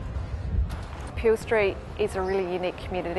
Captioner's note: street noises